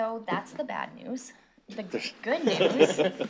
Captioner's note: laughter